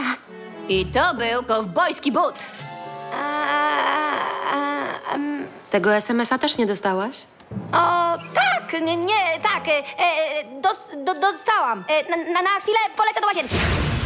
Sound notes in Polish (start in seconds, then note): none